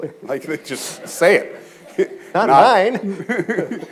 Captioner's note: audience chuckles